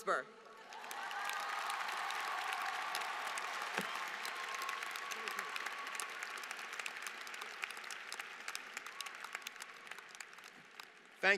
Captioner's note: applause